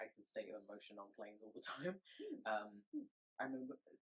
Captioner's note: chuckles